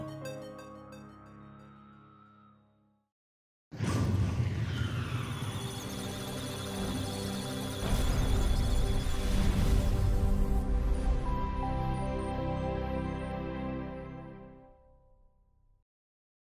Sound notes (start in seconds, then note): 4.0 musical Tones; 5.3 electronic Sounds of Data